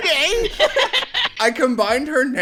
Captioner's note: laughter